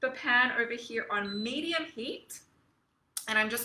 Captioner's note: stove beeps